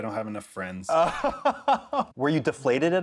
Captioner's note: laughter